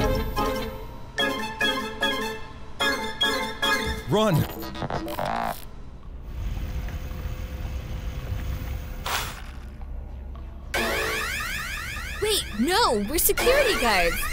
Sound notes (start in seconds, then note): 0.0 ominous music; 5.2 electrical whizzing; 10.7 alarm blaring